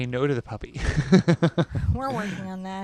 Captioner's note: chuckles